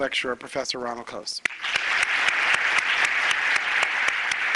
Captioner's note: applause